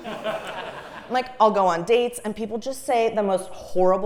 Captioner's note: laugh